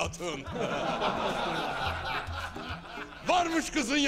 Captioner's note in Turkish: Gülme sesleri